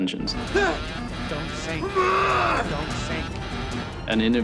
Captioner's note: crew verbalizing